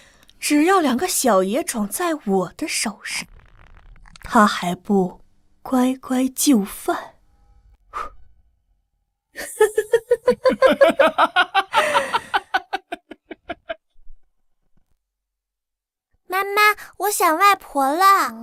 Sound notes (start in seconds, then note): 9.4 sinister laughter